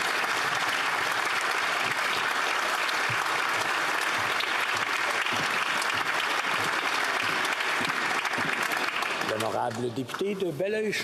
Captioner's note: applause